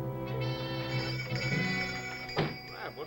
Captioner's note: shop doorbell ringing